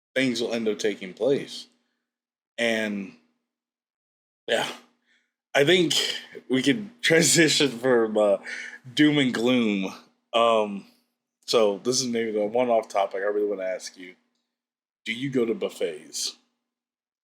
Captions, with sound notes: things will end up taking place, and ... yeah. I think [sighs] we can transition from, uh, doom and gloom. Um, so this is maybe the one-off topic. I really wanna ask you, do you go to buffets?